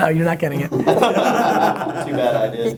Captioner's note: laughing